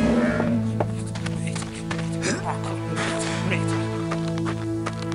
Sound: footsteps

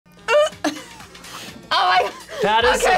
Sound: laughs

